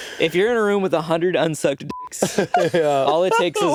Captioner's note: beeping